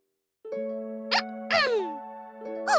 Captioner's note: clears throat